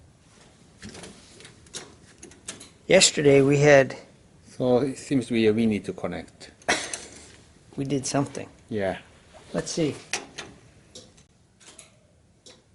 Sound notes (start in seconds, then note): 6.7 chuckles